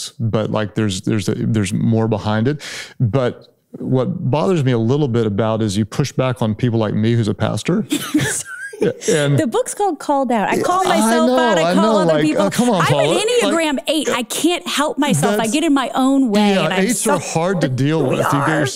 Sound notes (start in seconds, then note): 7.7 laughs